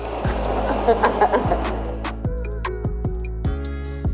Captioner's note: blow torch whooshes; laughs